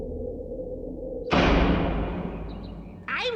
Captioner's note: cell door slams